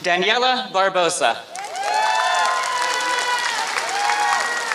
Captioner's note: applause